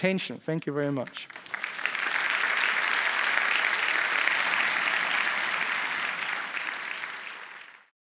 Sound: applause

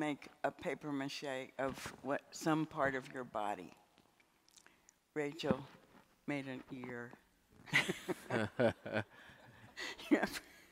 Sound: laughs

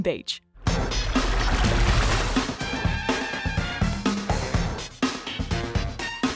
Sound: upbeat music; water splashing

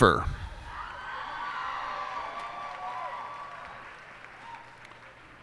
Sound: cheers and applause

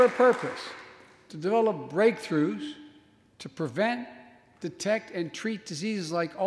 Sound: applause

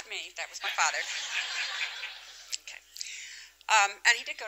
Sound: laughter

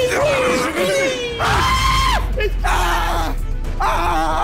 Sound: screaming

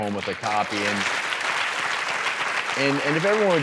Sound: audience claps

